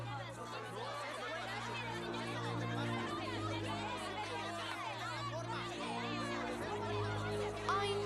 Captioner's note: unfriendly chattering